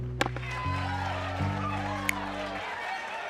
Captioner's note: cheers and applause